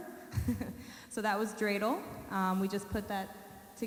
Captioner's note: chuckles